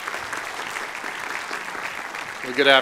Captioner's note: applause